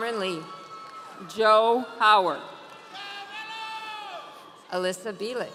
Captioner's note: audience cheering